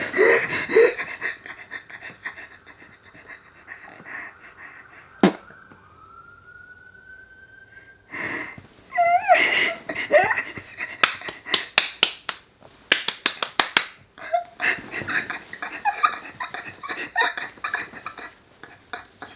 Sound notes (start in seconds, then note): 5.1 blows raspberry; 12.8 both clapping; 14.2 laughing